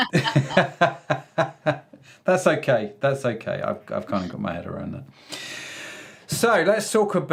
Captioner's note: laughing